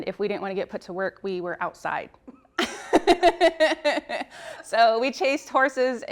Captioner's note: laughs